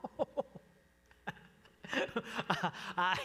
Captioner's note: laughter